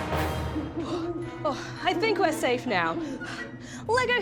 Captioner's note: exhales